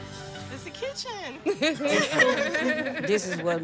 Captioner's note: laughing